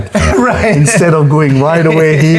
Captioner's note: laughs